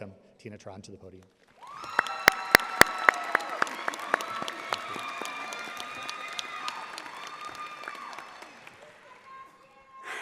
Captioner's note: audience applauding